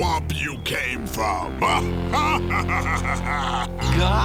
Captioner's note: laughing